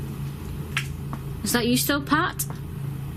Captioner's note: shuffling